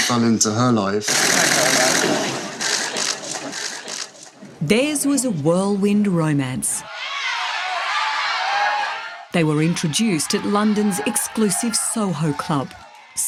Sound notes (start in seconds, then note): 1.1 cameras shooting loudly; 7.3 partying loudly